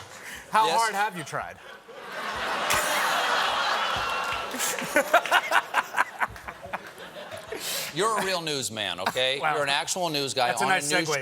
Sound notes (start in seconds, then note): 1.6 laughter